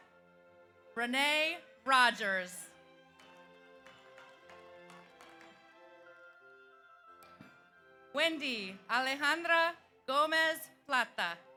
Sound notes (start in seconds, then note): 3.1 audience applauds